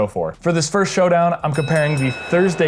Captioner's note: boxing bell ringing